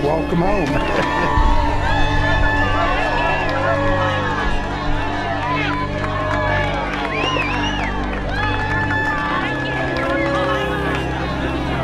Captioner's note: cheering